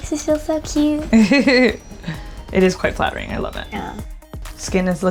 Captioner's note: laughing